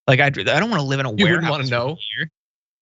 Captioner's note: laugh